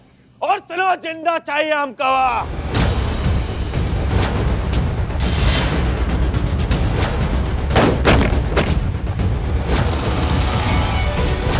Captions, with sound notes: I want her alive. [dramatic music plays] [thud]